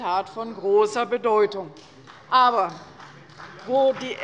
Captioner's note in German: Beifall bei der CDU - Zuruf von der SPD